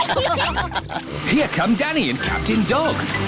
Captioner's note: all giggle